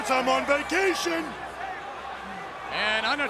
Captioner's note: applause